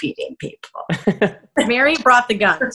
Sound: laughs

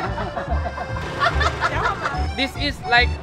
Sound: laughing mercilessly

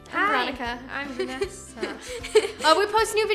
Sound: giggles

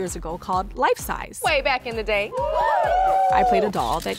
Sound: models cheer

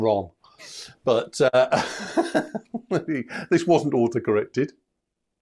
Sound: laughs

